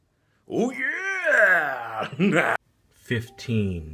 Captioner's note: crazy laughter